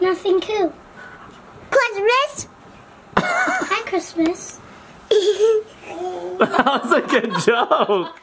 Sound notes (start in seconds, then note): 3.2 laughs; 5.1 giggles; 6.2 laugh